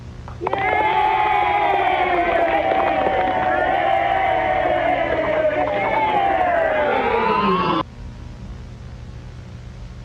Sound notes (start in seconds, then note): 0.3 crowd cheering